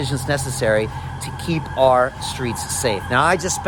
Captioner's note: ambulance siren wailing